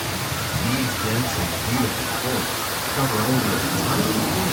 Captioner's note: waterfall rushes